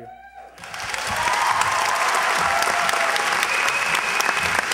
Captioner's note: applause, cheers